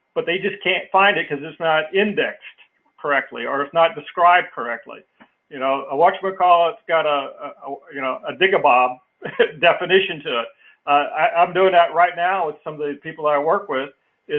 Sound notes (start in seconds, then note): 8.2 laugh